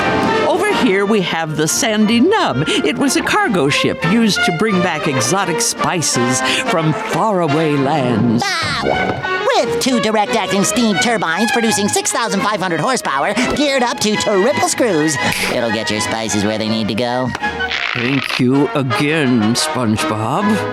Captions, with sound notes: Over here we have the Sandy Nub. It was a cargo ship used to bring back exotic spices from faraway lands. [laughing] With two direct-action steam turbines producing 6,500 horsepower geared up to triple screws, [snapping] it'll get your spices where they need to go. Thank you again, SpongeBob.